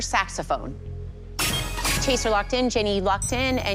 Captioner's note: chime, chime